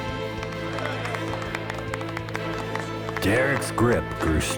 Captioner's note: applause